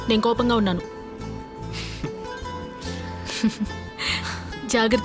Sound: chuckles

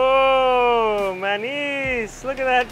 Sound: speaking in foreign language

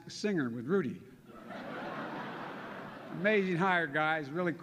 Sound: laughter

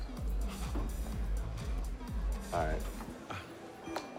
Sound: laughing

